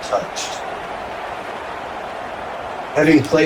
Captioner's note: crowd Noises